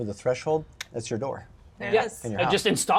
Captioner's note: clicks tongue